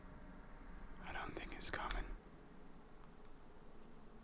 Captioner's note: whispering ends